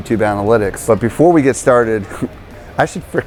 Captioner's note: laughing